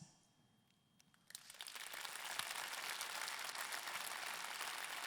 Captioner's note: audience clapping